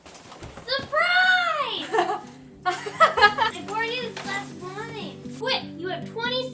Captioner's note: laughing